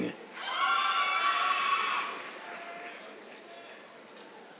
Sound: cheers, applause

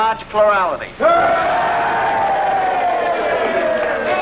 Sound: crowd cheering

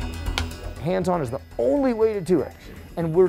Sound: clapperboard clicks

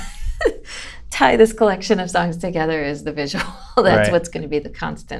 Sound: laughter; laughter

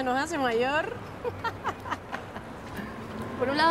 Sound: she laughs

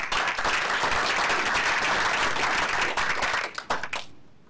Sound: applause

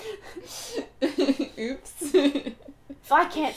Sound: laughing

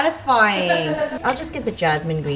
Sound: laughs

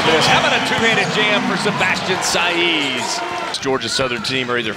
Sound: voiceover

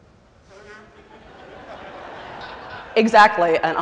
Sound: laughter

